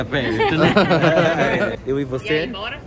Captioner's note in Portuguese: risos